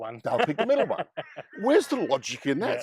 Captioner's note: laughs